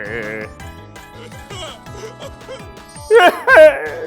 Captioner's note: sobbing